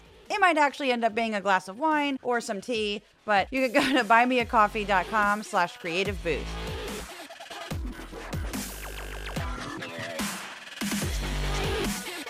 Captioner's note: laugh